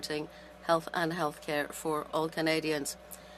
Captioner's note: speaking French